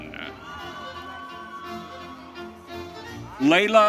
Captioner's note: audience cheering